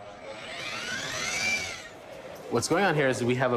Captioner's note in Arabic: الطنين الميكانيكي